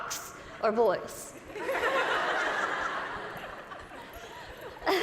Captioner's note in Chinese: 大笑; Lizzie也笑了